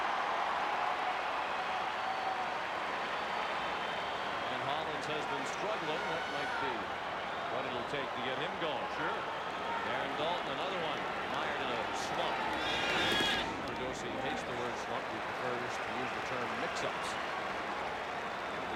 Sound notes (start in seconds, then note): 5.3 applause